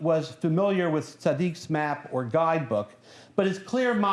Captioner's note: non-english speech